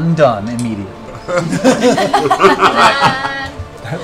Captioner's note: laughter